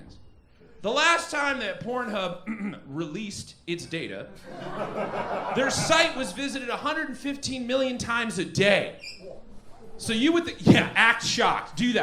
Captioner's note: ahem